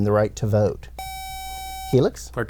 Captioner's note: buzzer